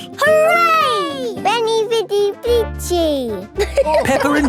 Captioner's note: all laughing